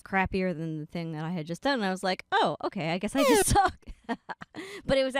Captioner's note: laughing